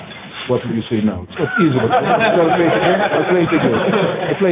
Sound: laughter

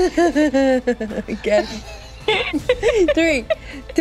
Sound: laughing

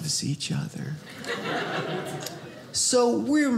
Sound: audience laughing

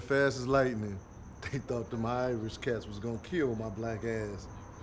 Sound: chuckling

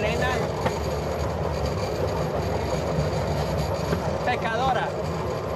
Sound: train chuffing; speaking in foreign language

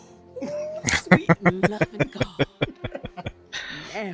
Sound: laughing

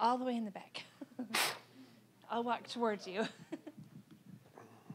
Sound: chuckling

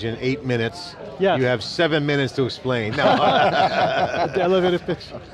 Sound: laughs

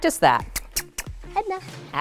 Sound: kissing sounds

